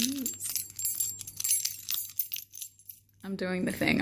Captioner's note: single, young, white adult cis female jingles keys